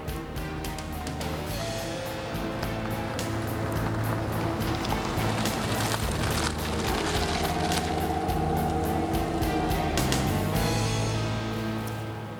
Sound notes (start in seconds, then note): 2.5 car engine rumbling